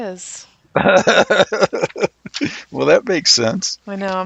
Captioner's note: laughs